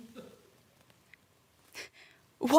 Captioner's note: sharp inhale